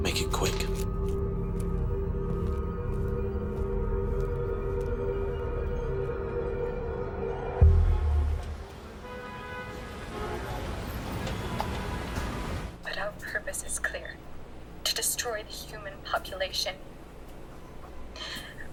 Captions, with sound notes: (dramatic music) (car horns honking) - But our purpose is clear to destroy the human population